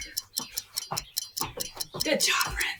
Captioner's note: feet clacking; timer ticking